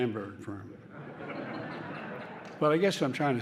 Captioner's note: laughter